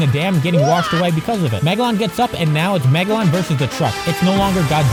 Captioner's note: Mario WAHH